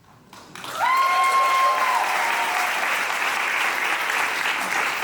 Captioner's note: audience applauding